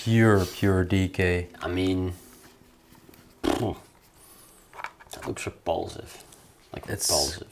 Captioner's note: scoffs